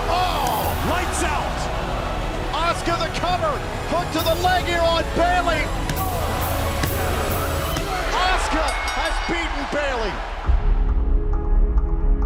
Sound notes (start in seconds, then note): 8.1 bell ringing